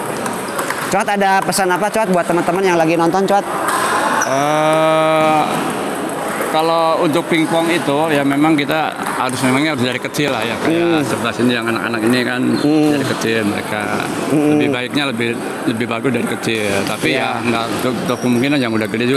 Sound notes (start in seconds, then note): 4.3 applause